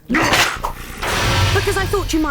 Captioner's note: crashes